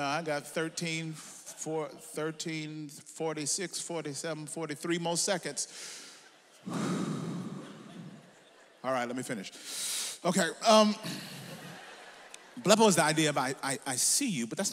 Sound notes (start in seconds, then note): 6.6 he exhales; 9.6 he inhales